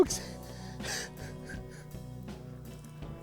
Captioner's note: laughs